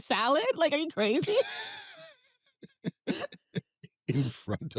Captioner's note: both laugh